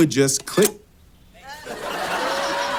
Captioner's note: metal clicks; audience laughs